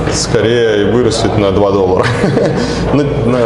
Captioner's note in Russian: смех